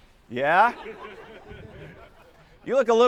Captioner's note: students laughing